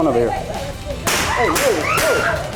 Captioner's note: gun fire; screams